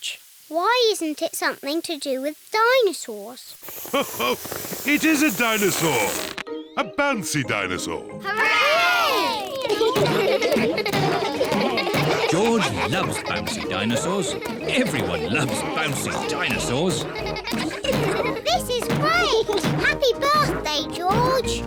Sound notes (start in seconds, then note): 3.8 laughs; 9.7 kids laughing